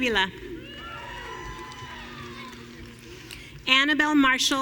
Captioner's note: audience cheering